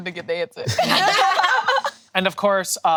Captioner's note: group laughing